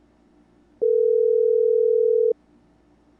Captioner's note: dial tone